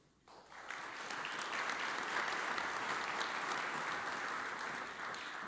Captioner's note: audience applauds